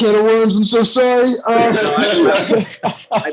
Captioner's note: laughter